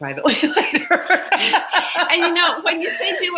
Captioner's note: laugh